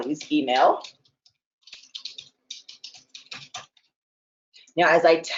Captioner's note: keyboard typing